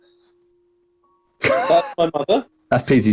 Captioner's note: sniggering